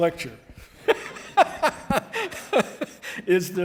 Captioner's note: laughing